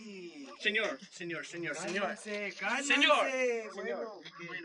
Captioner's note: foreign language